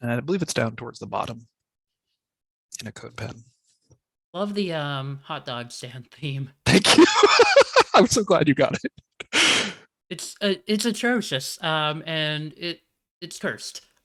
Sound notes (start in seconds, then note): 6.7 laughs